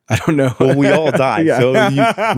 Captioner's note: laughs